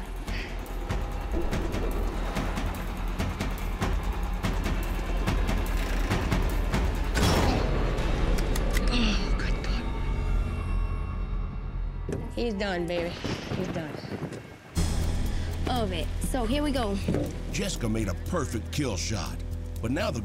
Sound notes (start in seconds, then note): 7.3 gun fires